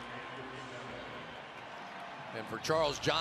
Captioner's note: pa announcement